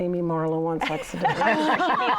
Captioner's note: laughter